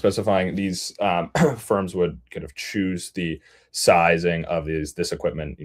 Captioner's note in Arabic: يُصفّي حلقه